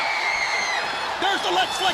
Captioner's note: crowd cheering